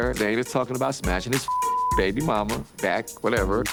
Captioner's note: beep